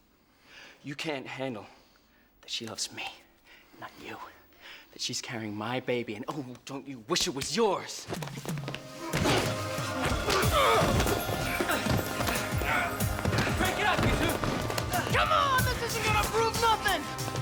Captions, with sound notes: You can't handle that she loves me and not you. That's she's carrying my baby, and oh, don't you wish it was yours? (grunting) - Break it up you two! - Come on, this isn't gonna prove nothing!